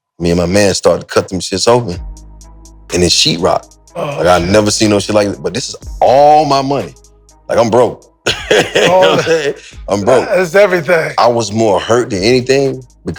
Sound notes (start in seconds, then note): 8.2 Maverick laughs